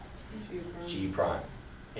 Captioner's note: voiceover